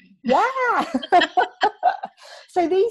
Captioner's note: both laughing